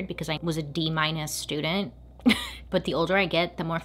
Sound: laughs

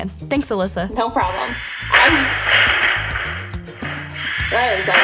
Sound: background rustling

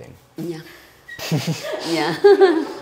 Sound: chuckles

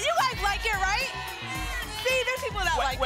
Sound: cheering and booing

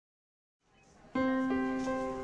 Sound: gentle music; monitor beeping

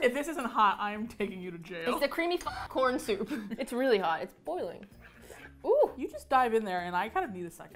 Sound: laughs

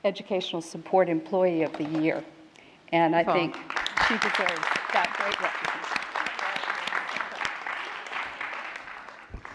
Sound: applause

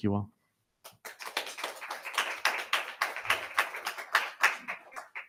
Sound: audience clapping

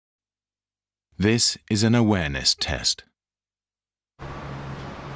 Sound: voiceover

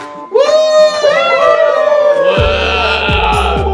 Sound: cheering

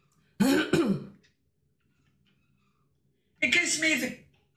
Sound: throat clears

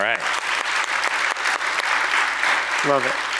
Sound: applause

